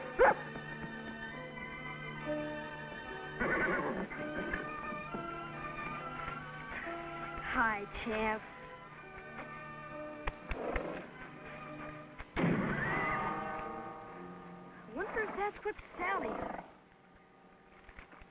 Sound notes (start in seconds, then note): 0.1 Rebel barking; 3.4 Champ whinnying; 5.1 whimsical music; 12.3 gun firing